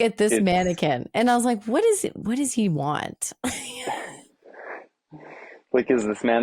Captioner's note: laughing